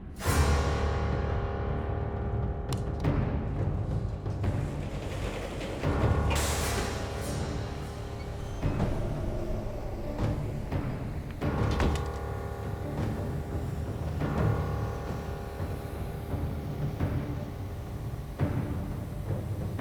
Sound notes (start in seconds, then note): 0.2 menacing music; 4.6 elevator door rattles; 11.3 door thuds; 13.6 tense ominous music